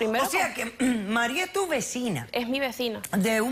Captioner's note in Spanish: carraspea